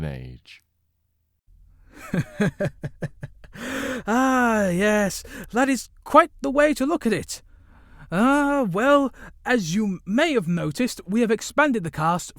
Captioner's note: chuckles